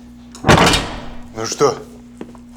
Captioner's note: door clicks shut